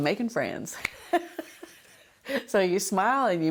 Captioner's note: laughter